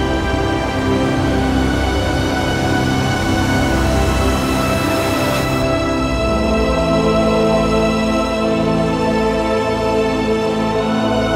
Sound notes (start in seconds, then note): 2.7 whooshing; 8.1 dramatic music